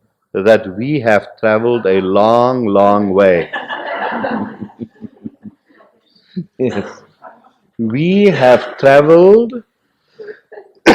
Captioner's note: laughter; coughs